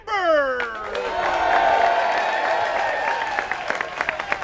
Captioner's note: applause